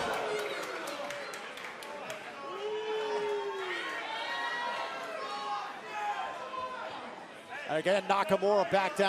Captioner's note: crowd cheering